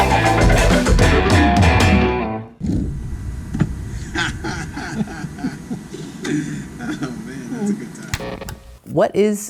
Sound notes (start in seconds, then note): 3.9 men chuckle